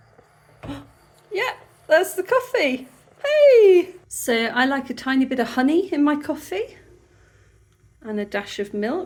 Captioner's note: gasp